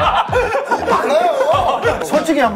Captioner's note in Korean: 더듬